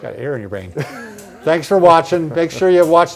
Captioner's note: laughs